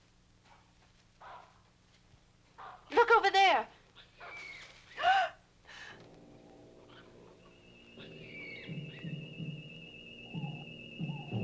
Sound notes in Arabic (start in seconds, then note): 2.5 نباح الكلاب; 5.1 لهث; 8.4 موسيقى مشوقة